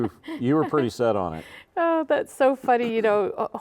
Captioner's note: laughing